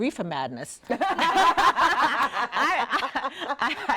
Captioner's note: laughing